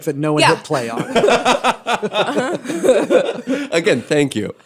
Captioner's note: laughter